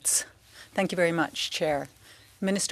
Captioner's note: speaking french